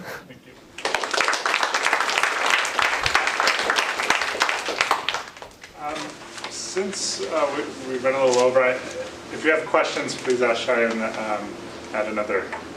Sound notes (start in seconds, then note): 0.7 applause